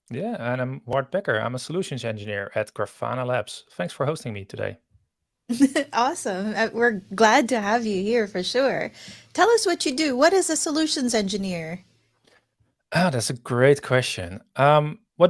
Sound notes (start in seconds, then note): 5.5 chuckles